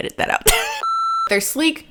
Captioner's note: beep